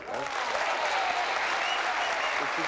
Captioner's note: applause